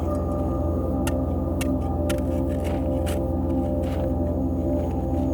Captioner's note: suspenseful music continues; shovel scraping